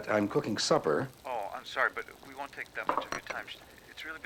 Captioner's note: on phone